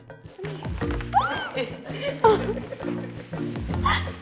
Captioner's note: squeals